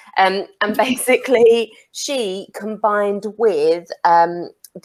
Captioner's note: none